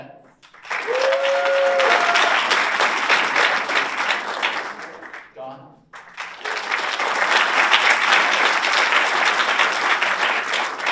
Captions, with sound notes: Annette? (audience applauds) Dawn? (audience applauds)